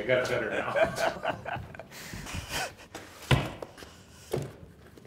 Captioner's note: laughing